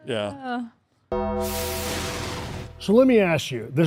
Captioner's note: logo dings; logo whooshing